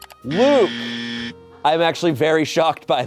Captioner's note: buzzer